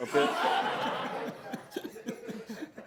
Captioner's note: laughter